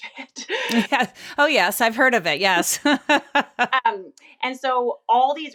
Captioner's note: laughs